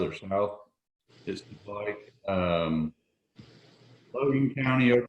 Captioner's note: audio is choppy